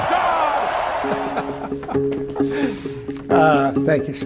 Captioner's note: laughing